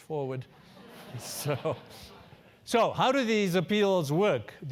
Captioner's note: laugh